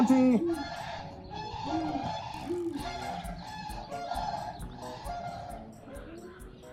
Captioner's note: geese honk; owls hoot